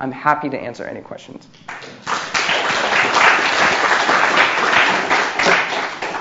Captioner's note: applause